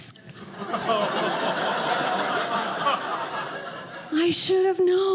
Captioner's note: audience laughing